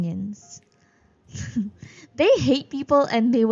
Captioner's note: laughs